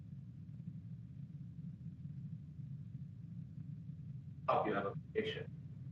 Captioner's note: off microphone